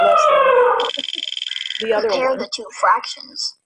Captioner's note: elephant trumpeting; wheel clicking; voiceover